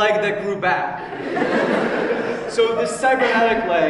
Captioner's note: audience laughs